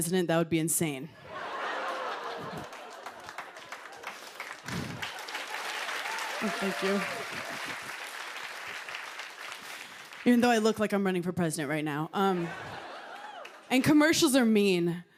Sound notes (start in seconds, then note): 1.2 laughter; 4.3 applause; 12.2 laughter